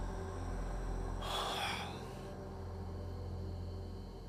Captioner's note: Kenny sighs